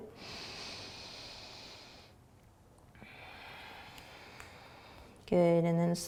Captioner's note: inhaling and exhaling